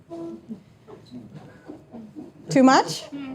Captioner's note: audience members laughing